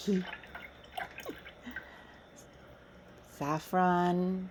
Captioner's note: trickle-pouring sounds continue